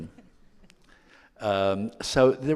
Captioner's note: laughing